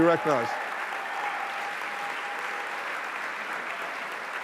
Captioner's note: applause